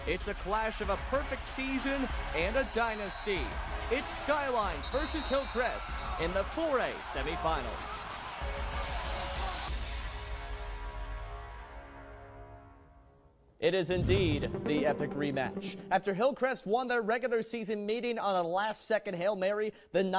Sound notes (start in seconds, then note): 3.0 cheering, then music